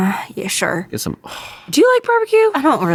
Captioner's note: sighs